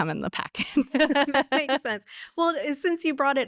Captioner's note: laughter